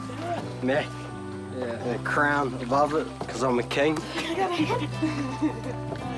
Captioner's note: chuckling